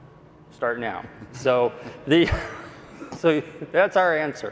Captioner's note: laughing